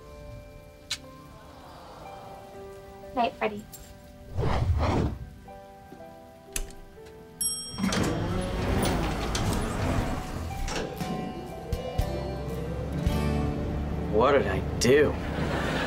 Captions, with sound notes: Night, Freddie. [dinging] What did I do?